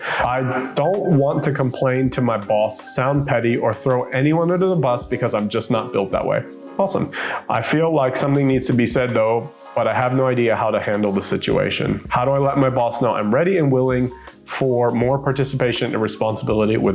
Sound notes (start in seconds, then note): none